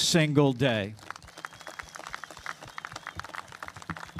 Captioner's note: applause